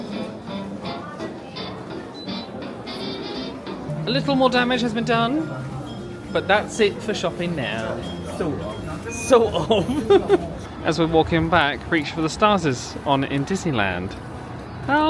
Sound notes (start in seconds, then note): 9.0 laughing